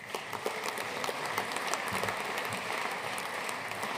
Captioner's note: audience applauding